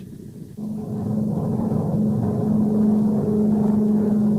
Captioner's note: plane engine roaring